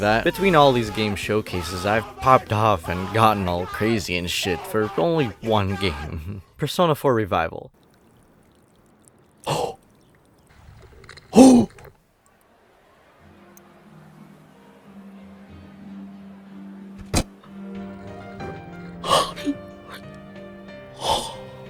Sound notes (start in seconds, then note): 9.4 gasp; 11.2 bigger gasp; 17.0 mini desk slam; 18.9 uh... moaning???? wtf was I doing bro